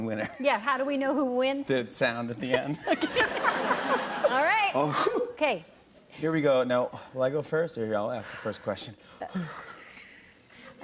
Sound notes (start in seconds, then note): 2.6 laughter; 2.7 laughing